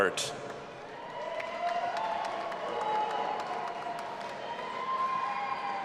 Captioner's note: audience applauding and cheering